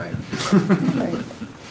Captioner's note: audience laughing